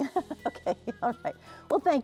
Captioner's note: chuckling